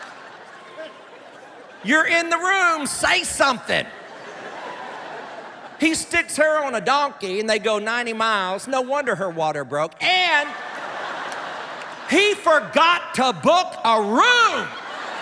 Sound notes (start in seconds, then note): 10.4 laughter